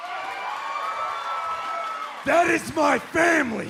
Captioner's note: cheers and applause